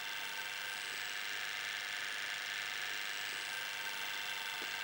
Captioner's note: cutter buzzes